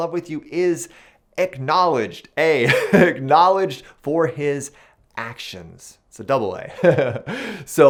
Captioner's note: chuckles